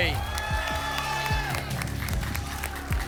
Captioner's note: applause and cheering